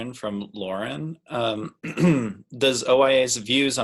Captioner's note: clears throat